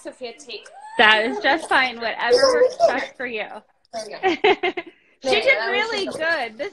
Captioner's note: laughs